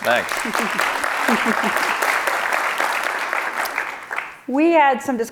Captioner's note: audience applauding